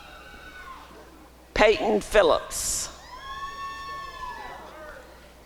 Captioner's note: applause and cheering